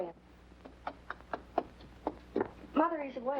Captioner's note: footsteps approaching